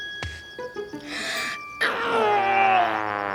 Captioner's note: deep inhaling, then grunting; sighing